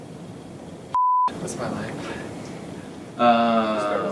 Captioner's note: beep